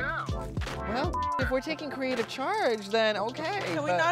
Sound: beep

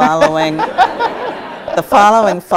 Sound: audience laughs

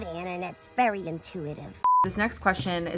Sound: beep

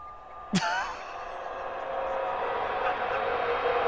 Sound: laughs Hysterically

